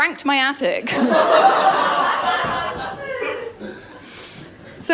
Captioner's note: laughter